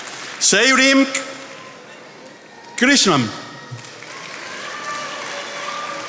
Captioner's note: attendees applauding